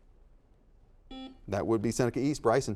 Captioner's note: buzzer dings